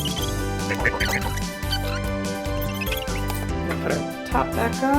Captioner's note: screwing on noise